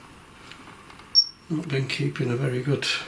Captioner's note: high-pitched beeping